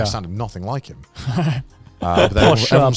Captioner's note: laughing